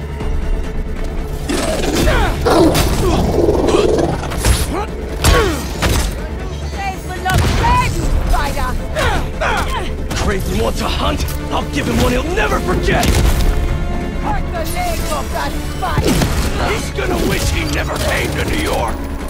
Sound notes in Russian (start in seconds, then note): 3.5 Кряхтит; 8.8 Кряхтит